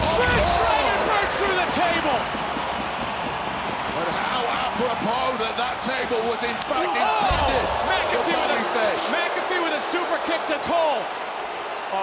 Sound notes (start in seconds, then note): 2.6 crowd cheers